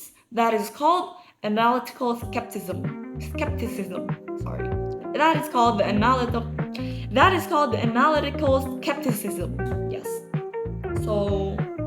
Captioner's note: struggling to pronounce